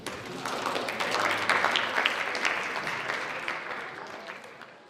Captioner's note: audience applauds